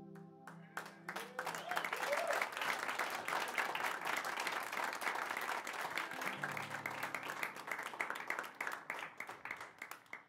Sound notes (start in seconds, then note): 1.8 applause